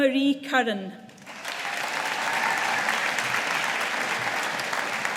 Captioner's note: audience applauding